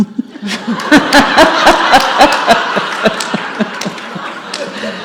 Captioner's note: audience and Katie laugh